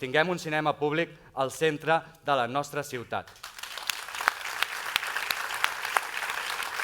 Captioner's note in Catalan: aplaudiments